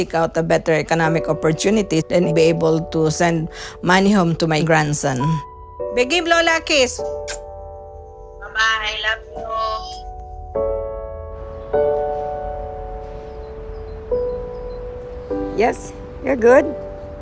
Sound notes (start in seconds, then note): 6.4 speaking foreign language; 9.0 woman on Phone